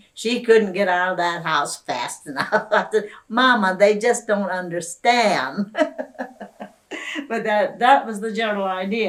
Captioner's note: laughs